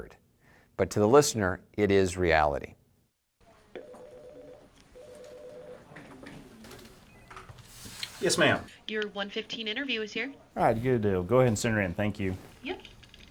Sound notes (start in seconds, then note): 4.9 office phone ring